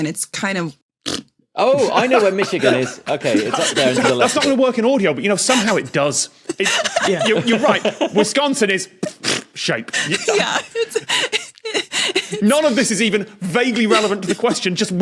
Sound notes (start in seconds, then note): 1.8 others crack up; 6.5 laugh; 9.9 laughs profusely